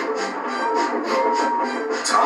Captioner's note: Henry's Whistle Blows